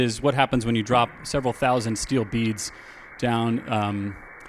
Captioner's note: beads cascading